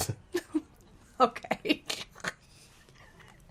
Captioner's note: laughing